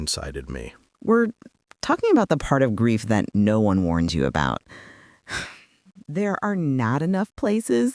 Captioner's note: sighs